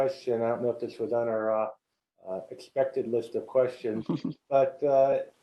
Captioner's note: laugh